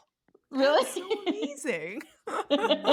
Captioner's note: laughter